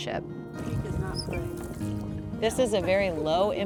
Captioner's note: chatter